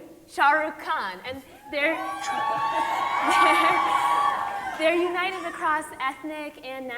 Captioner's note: audience cheering